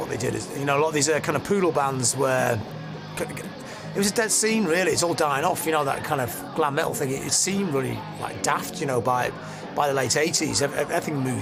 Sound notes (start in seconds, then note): 3.4 stutters